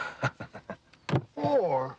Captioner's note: Nick laughing